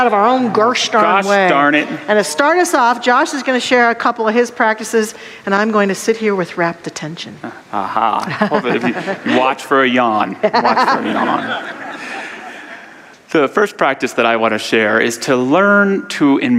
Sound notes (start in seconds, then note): 8.1 laughter; 8.2 audience laughter